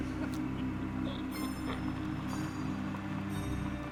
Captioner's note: eerie music; car rumbling